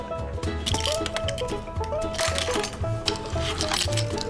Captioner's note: keys shuffling